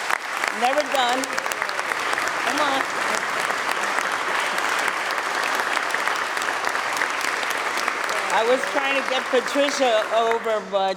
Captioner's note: applause